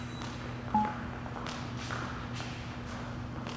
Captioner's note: graphic dings